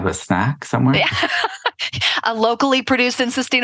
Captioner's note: laughing